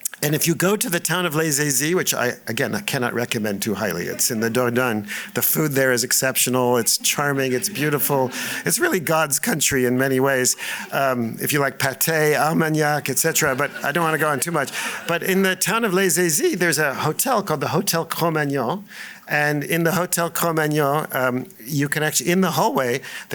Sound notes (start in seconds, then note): 12.2 laughter